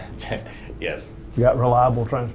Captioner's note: laughs